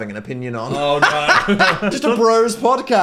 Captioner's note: Dan laughs